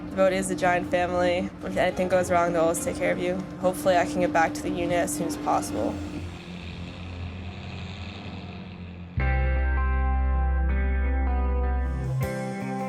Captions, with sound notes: But it is a giant family where if anything goes wrong they'll always take care of you. Hopefully I can get back to the unit as soon as possible. (airplane engine buzzing) (bright music)